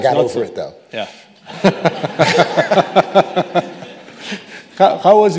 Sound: audience laughing

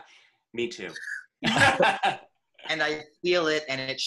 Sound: laughter

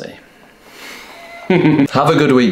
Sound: aggressive laughter

